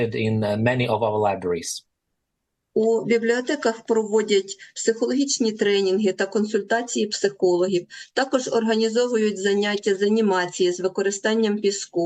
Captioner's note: foreign language